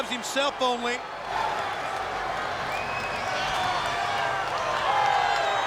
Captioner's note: crowd cheering